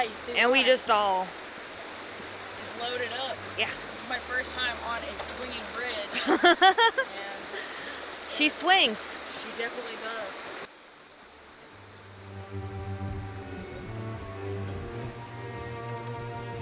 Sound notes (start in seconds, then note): 8.5 laughs; 11.7 eerie music continues